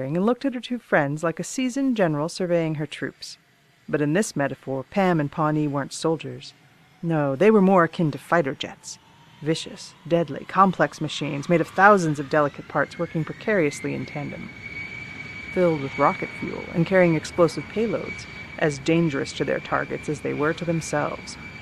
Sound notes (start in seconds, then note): 6.1 faint jet engine noises; 14.3 jet engine noises increase